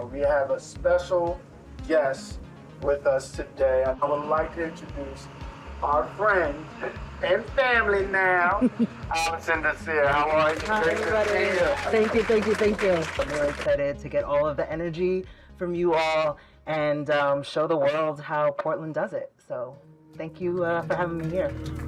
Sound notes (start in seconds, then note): 8.4 laughing; 10.0 crowd applauding